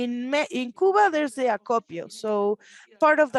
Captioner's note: speaks Spanish